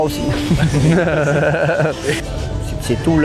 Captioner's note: chuckles